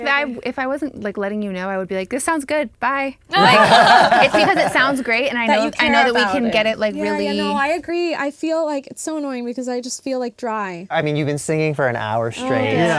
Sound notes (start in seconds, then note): 3.3 laughing